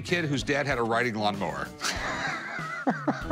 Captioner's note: laughs